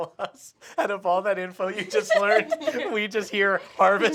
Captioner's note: laughs